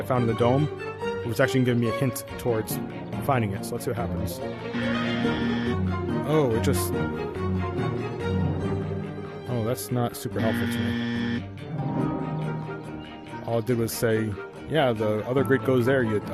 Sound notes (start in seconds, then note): 4.6 buzz